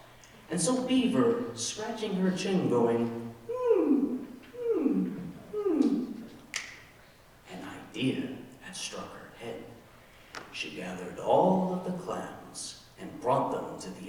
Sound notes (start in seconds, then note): 3.2 whining; 6.5 snaps